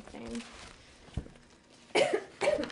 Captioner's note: coughs